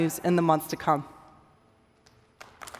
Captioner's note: applause